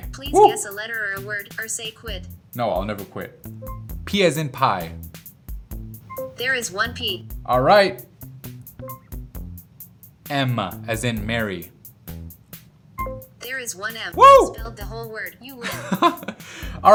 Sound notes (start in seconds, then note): 0.2 voiceover; 6.3 voiceover; 13.4 voiceover; 15.6 chuckling